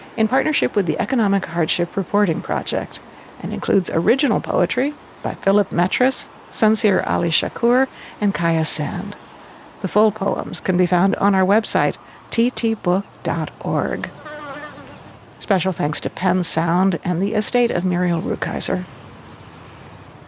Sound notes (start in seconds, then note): 13.9 insect buzzing